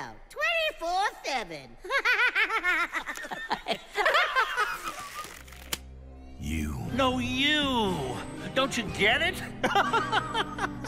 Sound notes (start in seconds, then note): 1.8 distorted cackling; 4.8 elastic stretches, snaps; 9.6 laughs